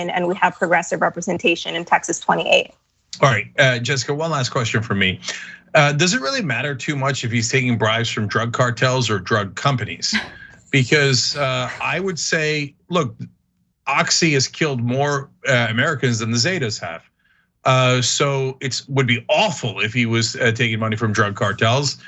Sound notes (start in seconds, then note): 10.0 laugh